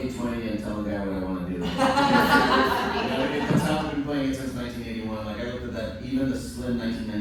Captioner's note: laughter